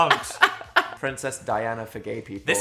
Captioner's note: Dan laughing